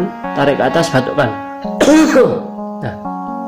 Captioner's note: cough